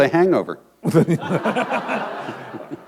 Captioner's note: laughter